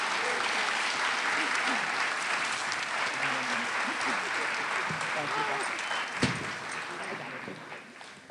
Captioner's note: applause